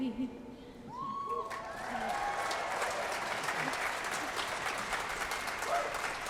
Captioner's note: applause